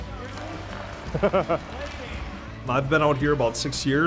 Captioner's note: laughs